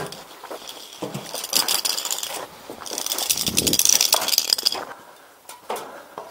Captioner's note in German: klappern